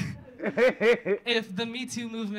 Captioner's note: audience laughing